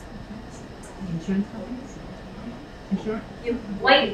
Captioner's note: speaking away from mic